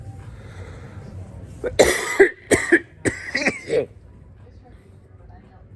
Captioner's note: coughs as she has two nicotine pouches